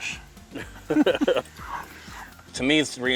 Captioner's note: laughing